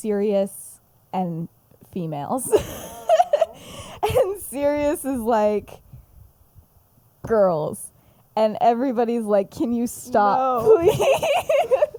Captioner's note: laughs